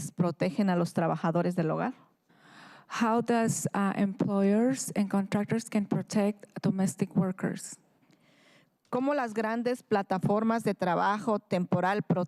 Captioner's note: speaking in spanish